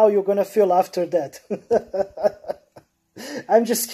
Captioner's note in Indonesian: tertawa